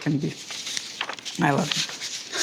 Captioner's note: paper rustling